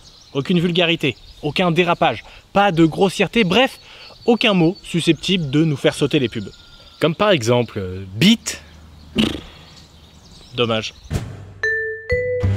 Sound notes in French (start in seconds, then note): 9.2 Soupir exaspéré; 11.6 Musique de générique